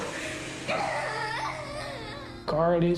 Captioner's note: crying